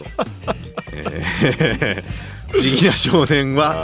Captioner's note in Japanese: 笑い